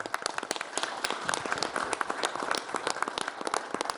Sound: all applauding

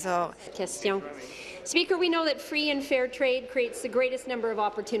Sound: speaking in French

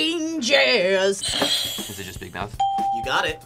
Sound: bell rings

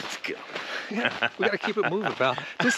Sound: Conan laughs

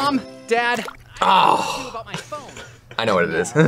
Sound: laughs

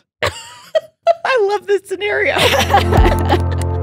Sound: laughing; bright music

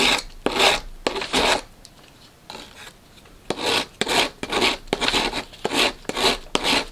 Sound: scraping against model; scraping against model

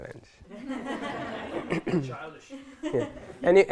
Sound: laughter

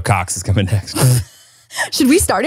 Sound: laughs

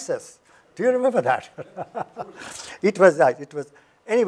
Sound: laughs

